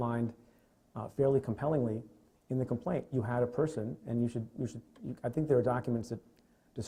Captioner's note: stutters